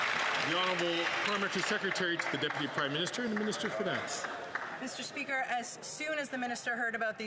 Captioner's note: some Applause